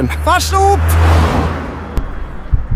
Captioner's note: car driving